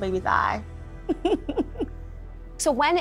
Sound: laughs

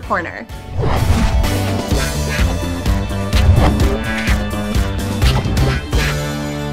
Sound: upbeat music; whooshing

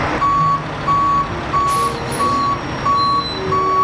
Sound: tow truck beeps

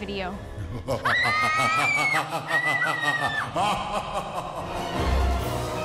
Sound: evil laugh

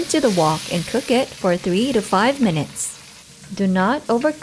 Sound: SIzzling, Music; oil sizzling

